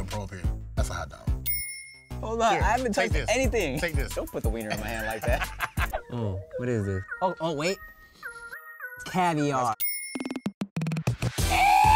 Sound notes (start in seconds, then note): 1.4 bell dings; 4.6 laughs; 7.3 sniffing